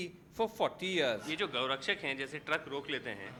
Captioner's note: speaking hindi